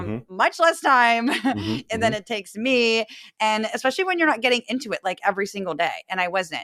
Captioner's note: laugh